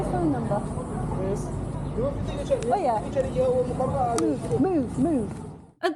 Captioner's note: speaking quickly in Kinyarwanda